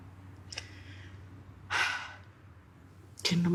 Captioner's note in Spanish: Suspiro